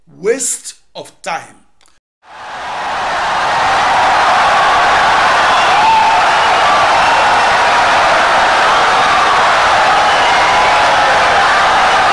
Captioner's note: wild applause and cheering for 17 seconds